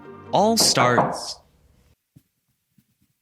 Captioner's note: knock